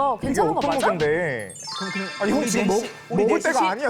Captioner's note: insensitive appetite sound effect